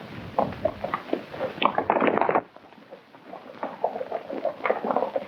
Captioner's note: hooves clomping